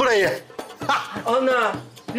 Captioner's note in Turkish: Gülme sesi